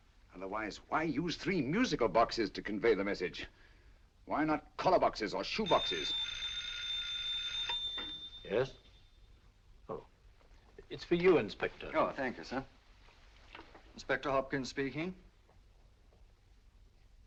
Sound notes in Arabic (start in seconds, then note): 5.6 رنين الهاتف